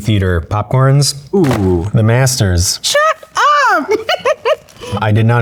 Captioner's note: chuckles